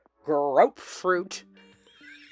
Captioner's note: unhinged, wheezy laughter